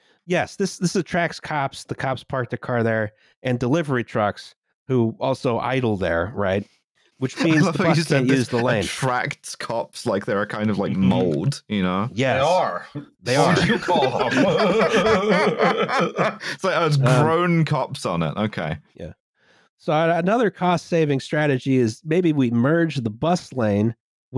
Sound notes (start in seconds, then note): 7.2 laughs; 13.4 laughter